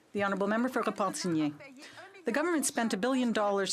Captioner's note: speaking French